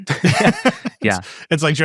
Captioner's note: people laughing